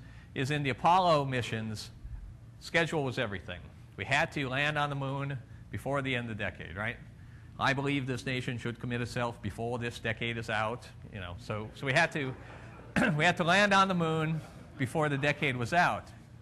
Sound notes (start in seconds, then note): 12.0 crowd laughter